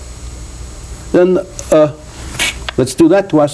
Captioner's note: makes cracking sound